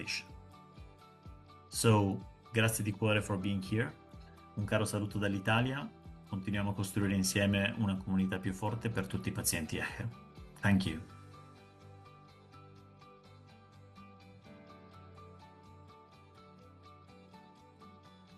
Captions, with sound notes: knowledge, support and hope that it is bigger than any organization. So, So, thank you for being here. (speaking in Italian) Thank you. (soft music)